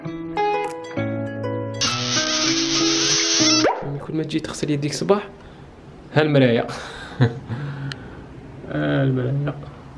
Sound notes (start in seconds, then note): 7.5 giggles